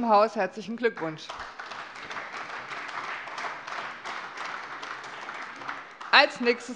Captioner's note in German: Beifall